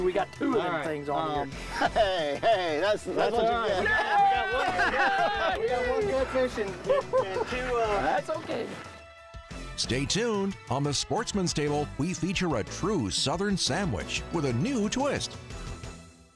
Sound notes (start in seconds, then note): 4.5 group laughing; 4.5 group murmuring